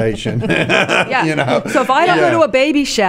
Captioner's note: laughing